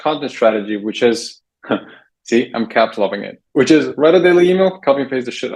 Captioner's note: laughs